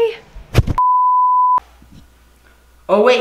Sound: beep

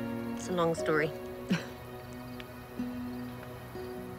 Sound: chuckles

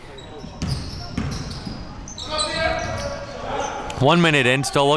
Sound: coaches and players yelling

